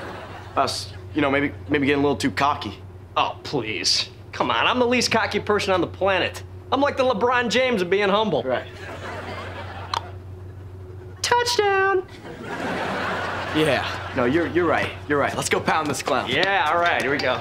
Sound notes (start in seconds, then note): 9.6 clicks tongue